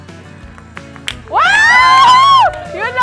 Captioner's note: cheering